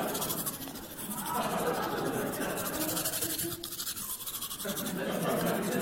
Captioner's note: audience chatter and laughter; tooth brushing; laughter